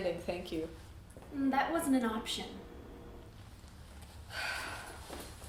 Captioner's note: sigh